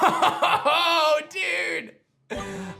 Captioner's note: chuckles